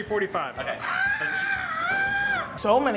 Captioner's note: screaming